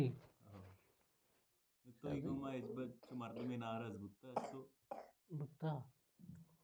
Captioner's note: coughing sound